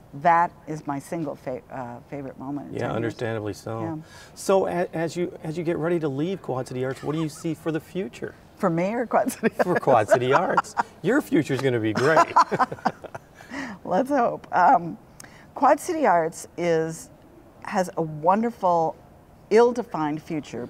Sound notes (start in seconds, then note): 9.2 laughs